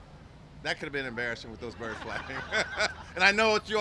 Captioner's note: laughter